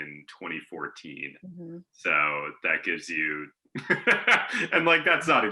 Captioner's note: laughing